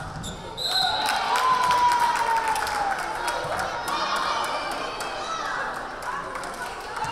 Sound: whistle blaring; crowd cheering

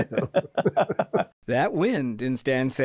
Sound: both laugh

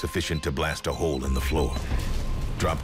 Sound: boom

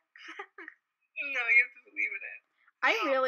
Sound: laughs

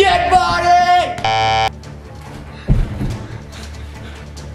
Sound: buzzer sound

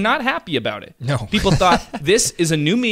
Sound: laughs

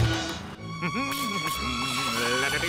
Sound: laughs; humming

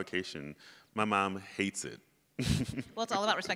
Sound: laughs

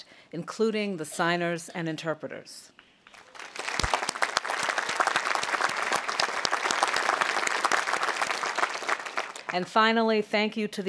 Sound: audience applauding

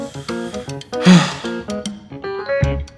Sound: heavy sigh

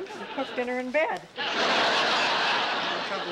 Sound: laughter

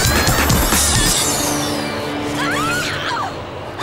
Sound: screams

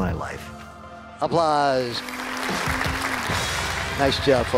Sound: applause

